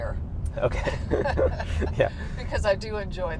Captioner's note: both laughing